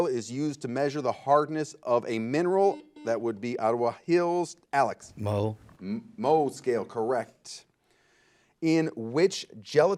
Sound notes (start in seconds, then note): 4.2 buzzer